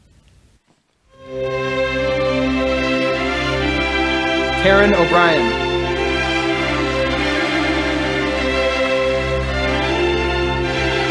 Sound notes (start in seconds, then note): 1.4 uplifting orchestral music; 6.8 audience applauding